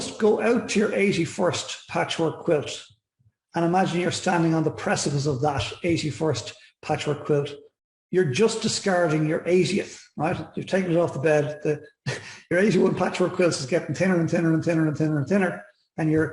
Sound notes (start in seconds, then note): 12.1 chuckles